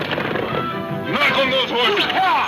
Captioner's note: man exclaiming